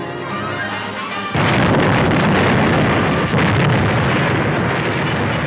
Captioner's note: bomb explodes